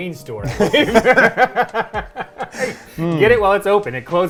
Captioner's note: laughing